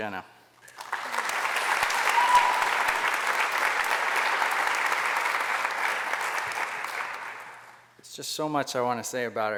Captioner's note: applause